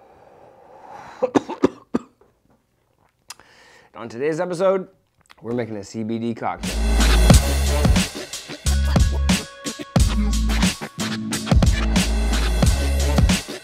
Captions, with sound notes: (coughing) - On today's episode, we're making a CBD cocktail. (hip hop music)